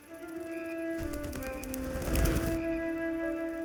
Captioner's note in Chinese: 振翅声